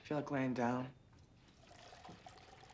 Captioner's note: water run